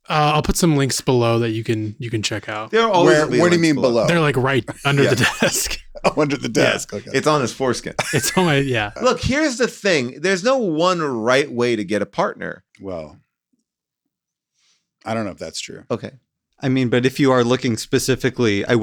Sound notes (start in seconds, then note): 5.5 laughs; 8.2 laughs